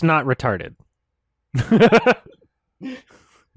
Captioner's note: laughs